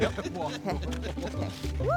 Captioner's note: all laughing